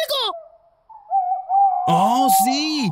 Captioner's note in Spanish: Sonido de búho